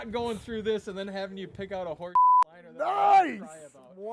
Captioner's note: beep